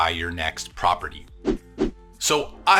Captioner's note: whoosh